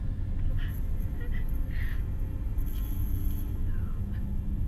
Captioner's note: transient weeps quietly